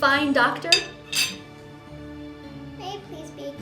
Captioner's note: spoon clanking